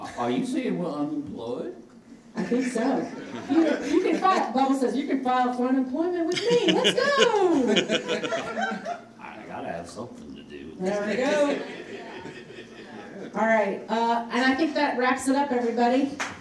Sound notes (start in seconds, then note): 8.2 audience laughing; 16.2 audience applauding